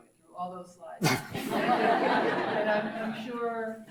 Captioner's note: laughs; audience laughs